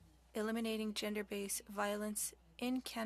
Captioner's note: speaking French